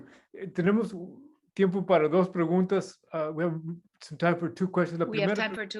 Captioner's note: non-english speech